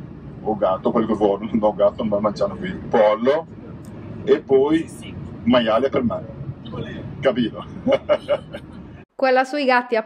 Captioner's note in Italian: Risata